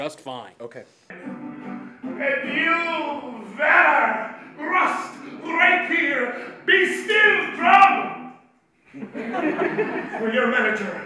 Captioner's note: laughter